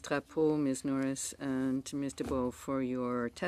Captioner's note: speaking French